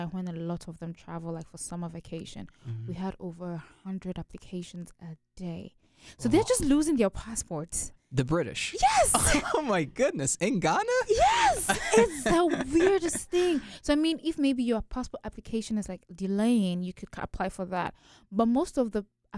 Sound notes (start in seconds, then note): 8.8 laughs; 11.1 both laugh